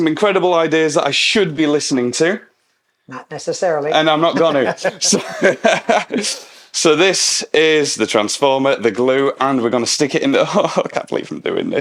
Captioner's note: both laugh